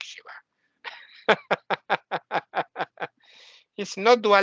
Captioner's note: laughing